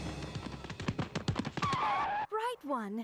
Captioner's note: both skidding